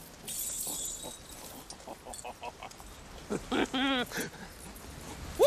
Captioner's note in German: Glucksen